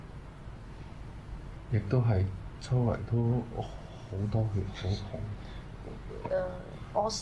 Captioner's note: speaking in Cantonese